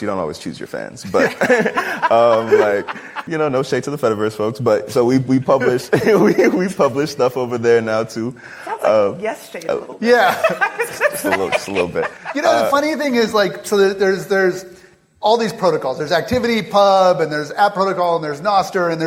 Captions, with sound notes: you don't always choose your fans. [laughter] No shade to the fediverse folks. So we publish stuff over there now too. Sounds like yesterday a little bit. [laugh] Yeah. Just a little bit. The funny thing is, so there's all these protocols. There's ActivityPub and there's AT Protocol and there's Nostr and